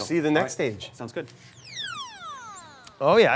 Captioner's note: electric buzzing